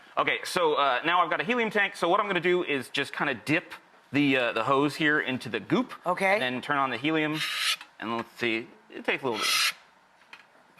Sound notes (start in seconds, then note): none